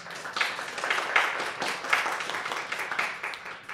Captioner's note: applause